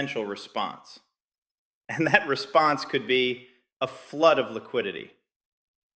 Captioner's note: laughing